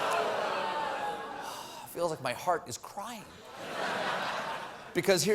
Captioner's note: audience reacts